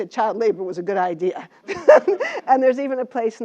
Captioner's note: laugh